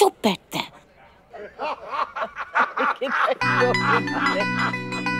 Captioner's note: People laughing